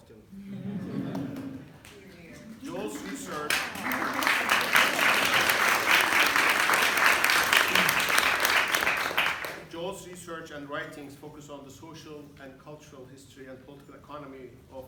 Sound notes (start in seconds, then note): 0.3 laughter; 3.4 applause